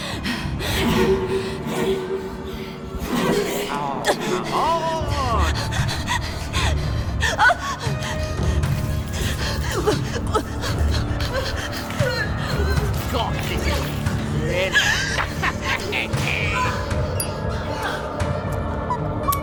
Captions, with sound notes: Gosh, this is thrilling [laughs]